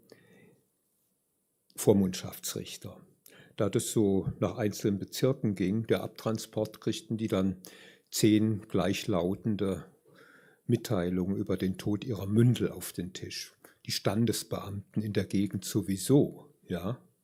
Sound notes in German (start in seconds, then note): none